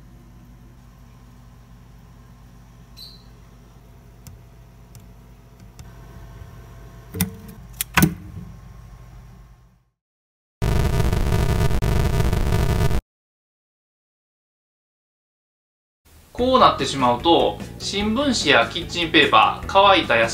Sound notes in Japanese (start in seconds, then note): 10.7 炎が上がる音